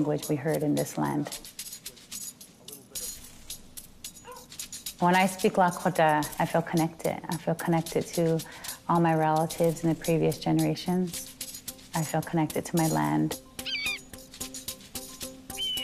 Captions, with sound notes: we heard in this land. When I speak Lakota, I feel connected. I feel connected to all my relatives in the previous generations. I feel connected to my land. (bird cawing)